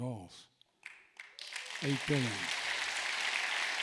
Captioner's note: applause